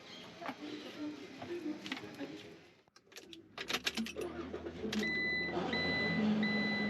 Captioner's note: phone ringing